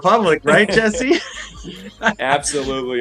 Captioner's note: laughing